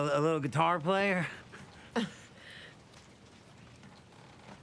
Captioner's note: laughs